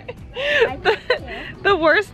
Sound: laughing

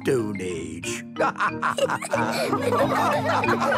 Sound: all laughing

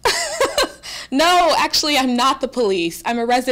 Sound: laughing

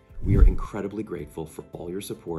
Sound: swoosh

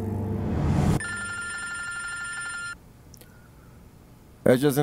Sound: phone ringing

